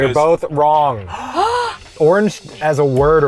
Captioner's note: both gasping